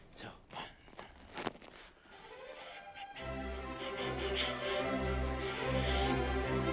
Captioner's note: panting softly; fast-paced orchestral music